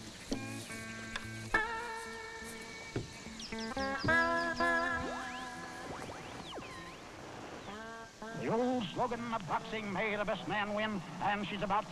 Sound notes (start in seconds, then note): 6.9 radio tuning; 8.7 radio Announcer